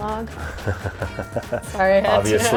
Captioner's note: laughs